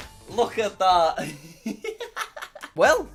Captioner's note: laughs